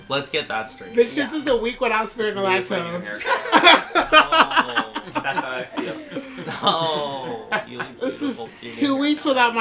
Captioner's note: laughter